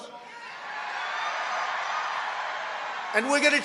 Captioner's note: crowd cheering